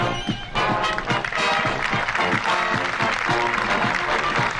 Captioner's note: applause